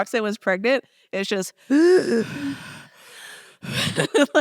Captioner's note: wheezing sound